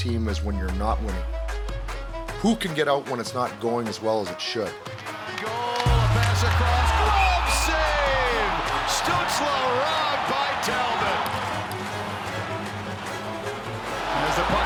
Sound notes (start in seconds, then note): 8.0 crowd cheering; 11.4 dramatic music continues